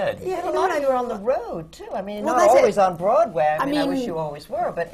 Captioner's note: none